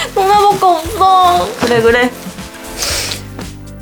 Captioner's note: sniff